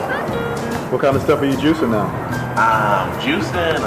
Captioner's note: voiceover